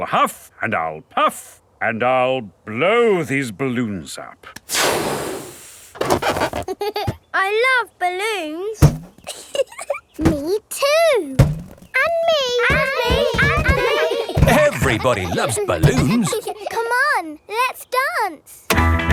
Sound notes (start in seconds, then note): 9.2 chuckles